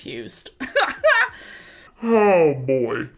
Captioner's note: laughs